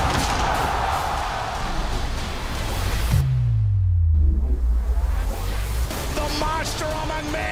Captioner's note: cheers and applause